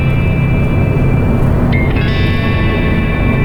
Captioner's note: air whooshing